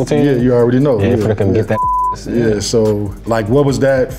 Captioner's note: beep